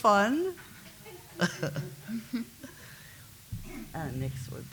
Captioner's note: laughs